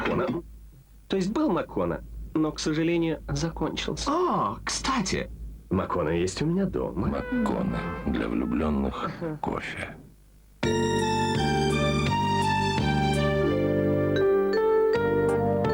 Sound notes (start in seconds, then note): 0.0 ahem